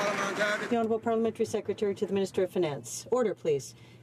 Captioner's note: some Applause